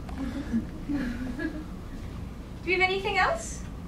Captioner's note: audience chuckling